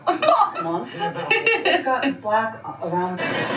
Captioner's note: both women laughing